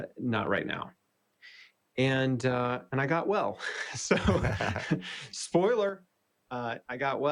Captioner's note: laughs